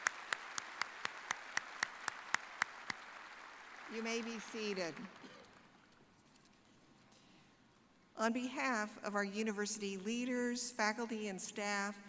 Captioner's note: applause